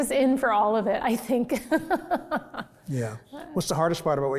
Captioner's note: laughs